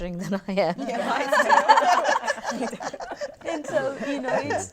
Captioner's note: laughter